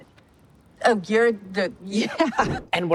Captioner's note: chuckles